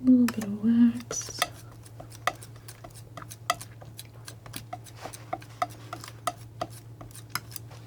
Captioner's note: tapping